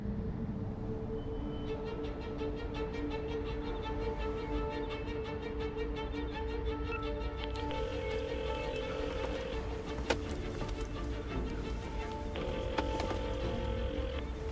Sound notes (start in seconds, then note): 1.5 jagged instrumental music; 7.6 phone rings; 7.7 phone beeps